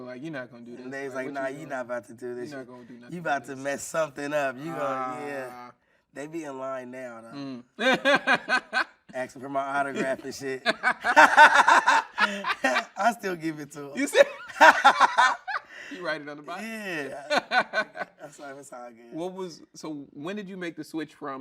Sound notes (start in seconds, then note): 7.3 laughing; 10.4 everyone laughing